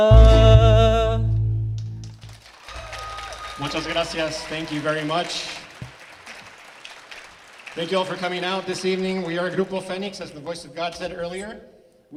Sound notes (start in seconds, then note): 2.3 attendees clapping and cheering; 5.7 attendees clapping